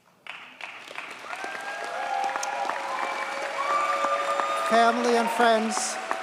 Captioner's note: audience cheers and applauds